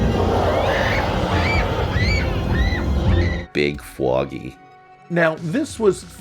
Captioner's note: more screams